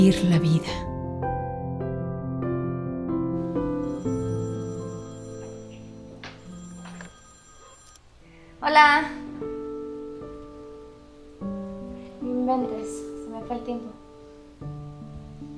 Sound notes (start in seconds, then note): 3.8 phone ringing; 8.8 speaking in a foreign language